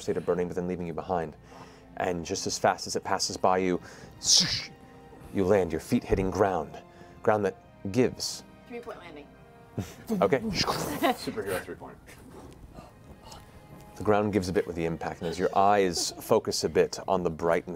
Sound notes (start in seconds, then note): 11.2 impact